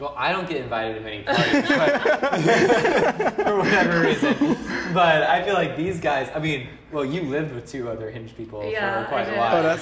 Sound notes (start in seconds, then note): 1.3 everyone laughs